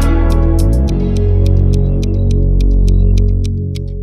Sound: clock ticking

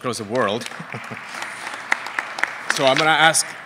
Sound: applause

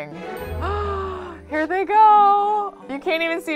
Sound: gasps

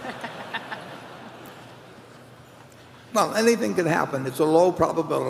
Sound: laughter

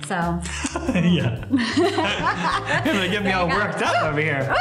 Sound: laughter

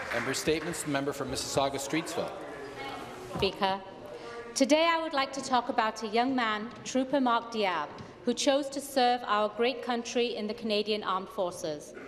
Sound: applause

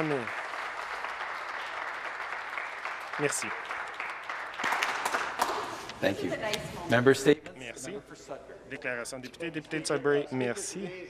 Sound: applause

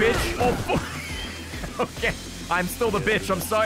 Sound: laughs

